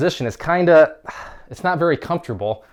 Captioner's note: exhales